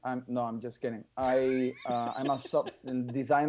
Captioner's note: laughing